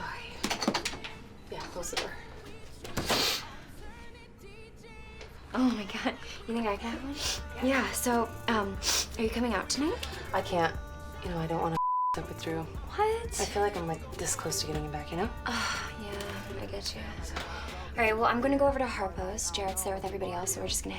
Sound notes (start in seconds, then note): 3.1 Ashley sniffling over door rattling; 7.4 coughs; 15.7 sighs